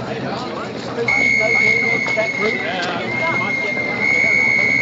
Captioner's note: police whistles